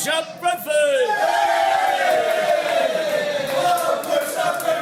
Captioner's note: patrons cheering